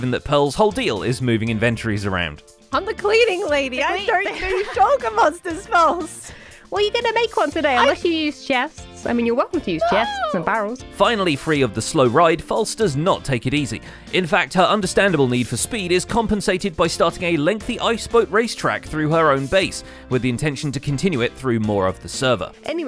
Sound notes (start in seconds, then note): 6.9 laughs; 10.7 whines